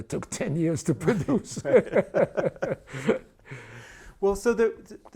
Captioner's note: laughing